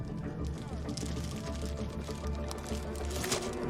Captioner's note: evidence bag crinkling